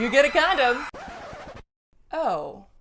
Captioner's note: record scratches